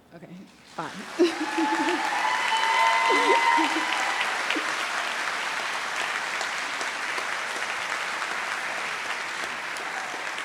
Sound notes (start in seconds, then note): 0.8 chuckles; 2.2 audience cheers and applauds